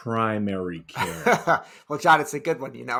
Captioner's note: laughing